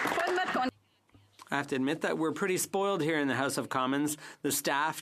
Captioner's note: applause